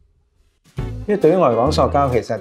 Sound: Cantonese

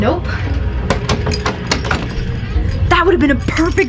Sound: doorknob clicks

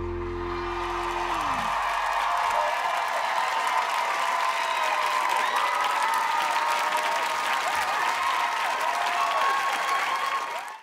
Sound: applause

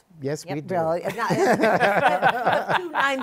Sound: laughter

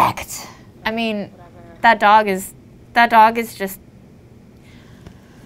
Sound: sighs

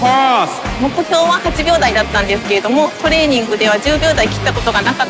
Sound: speaking Japanese

